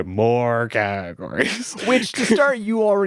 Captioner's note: laughs